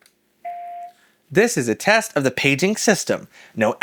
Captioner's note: beep